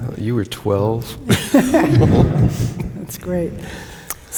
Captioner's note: laughter